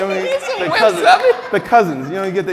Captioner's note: laughing